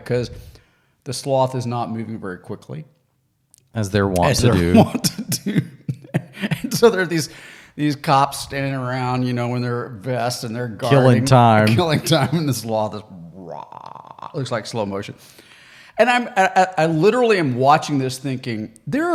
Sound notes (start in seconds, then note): 4.2 laughs; 10.8 laughs; 13.3 grunting